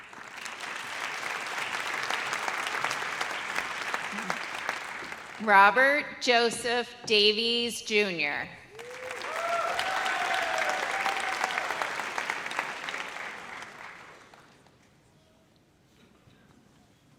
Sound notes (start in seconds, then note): 0.0 audience applauds; 8.7 audience cheers